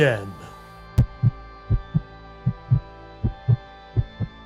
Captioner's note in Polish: bicie serca